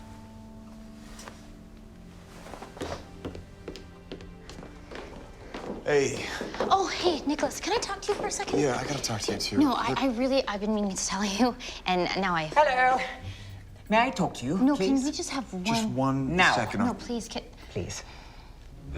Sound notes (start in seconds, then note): 2.3 feet tapping